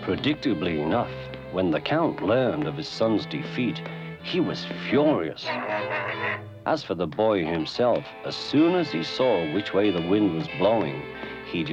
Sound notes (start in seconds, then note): 4.9 honking